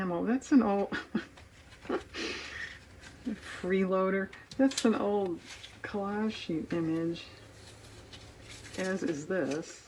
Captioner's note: laughs